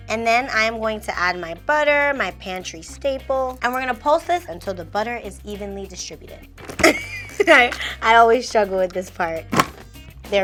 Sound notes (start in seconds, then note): 6.8 chuckles